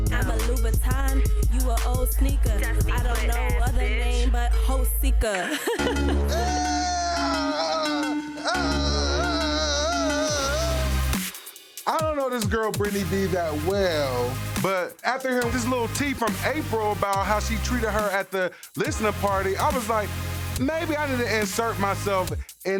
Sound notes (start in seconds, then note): 5.3 laughs; 10.4 thumping hip-hop music